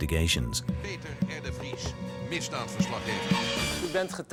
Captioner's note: Dutch spoken audio